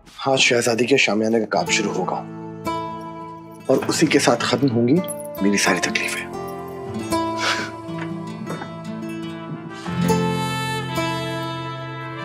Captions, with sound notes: Today, I will start work on the princess's marquee. And along with it will end all my problems. [chuckles] [pleasant music playing]